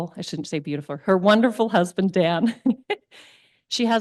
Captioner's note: chuckles